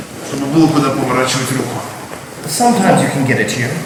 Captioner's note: speaking in a foreign language